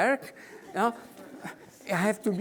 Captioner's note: audience laughing